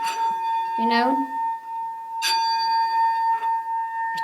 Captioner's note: bowl dinging